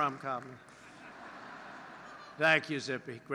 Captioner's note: laughter